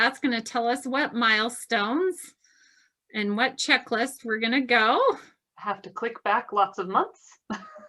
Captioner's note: laughs